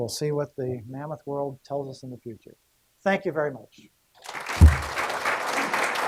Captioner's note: clapping